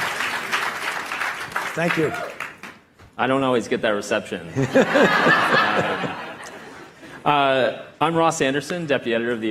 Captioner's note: applause